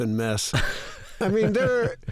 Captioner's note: laughter